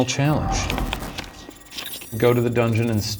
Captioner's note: computer bleeping